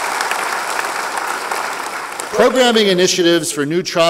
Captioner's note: applause